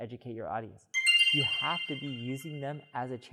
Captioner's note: text chimes